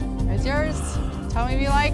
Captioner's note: gasping